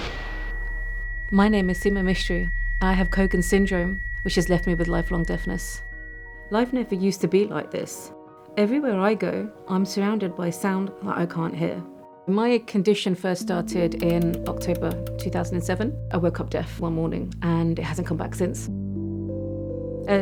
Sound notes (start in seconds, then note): 0.0 tube arriving loud sound; 0.2 music stops, high-pitched ringing; 12.4 clock winding sound; 17.5 melancholy music